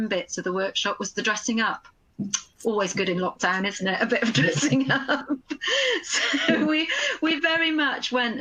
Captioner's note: laughs